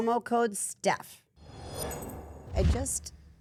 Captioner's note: logo whooshing